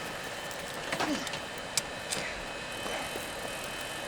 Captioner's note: grunts